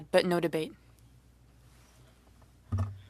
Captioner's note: speaking French